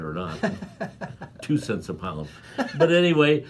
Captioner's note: laughing